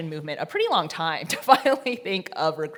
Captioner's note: chuckles